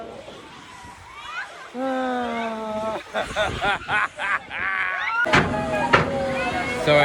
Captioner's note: more laughing